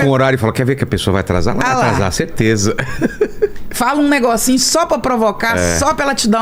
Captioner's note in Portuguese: risadas